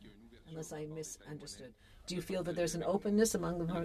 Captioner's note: speaking French